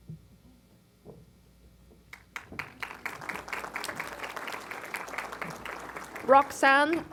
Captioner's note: applause